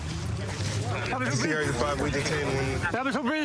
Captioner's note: excited chatter